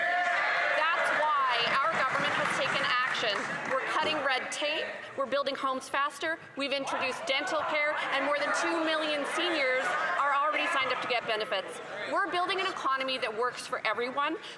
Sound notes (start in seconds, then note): 4.6 cheers & Applause